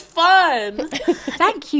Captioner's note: laughing